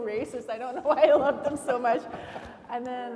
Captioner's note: laughing